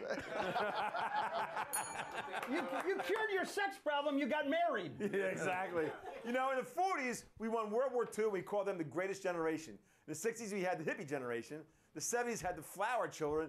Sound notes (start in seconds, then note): 1.6 bell rings; 2.6 laughter